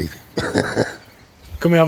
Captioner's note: laughs